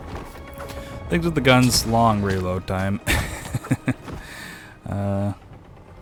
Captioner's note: chuckles sadly